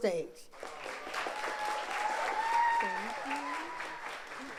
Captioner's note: audience applauds